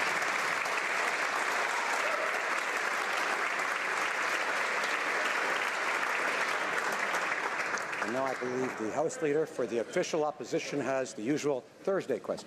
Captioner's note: applause